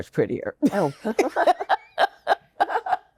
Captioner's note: giggles